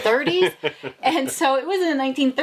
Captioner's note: laughing